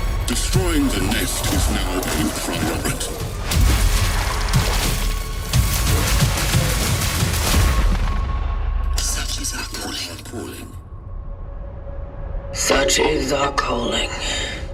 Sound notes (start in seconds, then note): 9.1 many voices